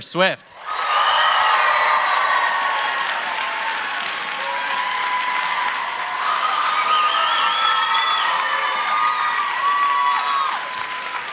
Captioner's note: cheers and applause